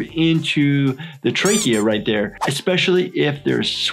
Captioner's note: toy squeaking